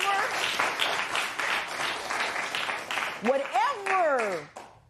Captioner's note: applause